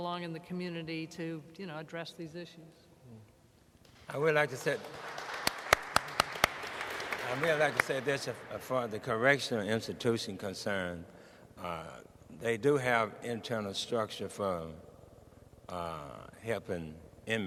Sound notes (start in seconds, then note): 4.1 audience and panelists applauding